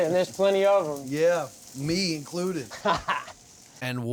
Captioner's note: laughing